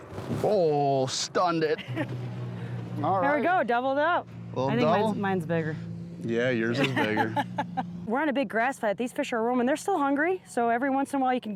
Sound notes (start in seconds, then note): 1.8 laughs; 6.7 laughs